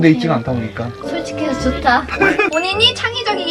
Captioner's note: sarcasm compliment